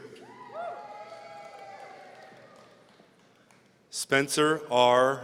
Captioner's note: audience cheering